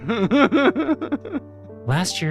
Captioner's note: laughing